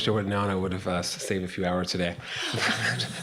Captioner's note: chuckle